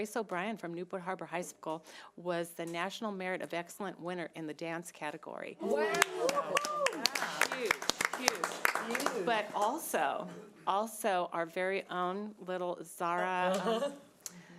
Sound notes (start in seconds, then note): 5.8 audience applause